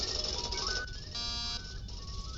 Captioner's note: door buzzes